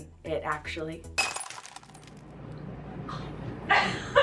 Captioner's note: glass shattering; laughs